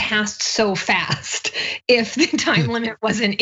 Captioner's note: laugh